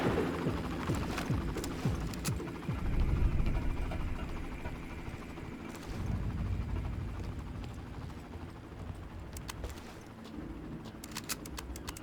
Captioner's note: helicopter whirring; gun firing; helicopter whirring